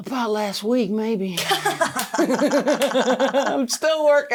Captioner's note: both laughing